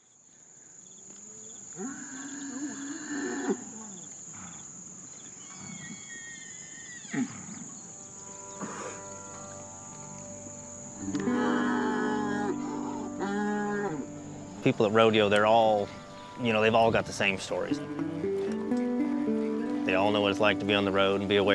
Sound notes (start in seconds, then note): 0.2 nature sounds; 4.5 bulls mooing and grunting